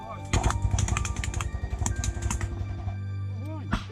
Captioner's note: gunfire